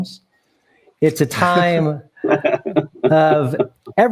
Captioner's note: everyone chuckling